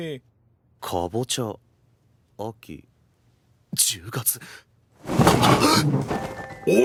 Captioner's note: gasps